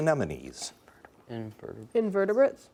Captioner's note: whispering